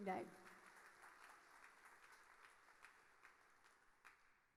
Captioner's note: audience applauding